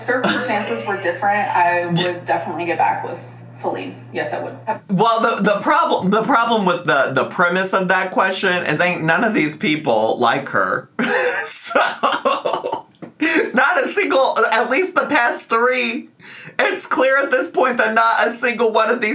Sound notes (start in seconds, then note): 11.0 laughs